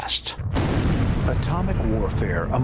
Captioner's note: explosion